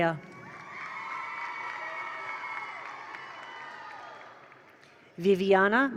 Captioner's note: attendees cheer; attendees applaud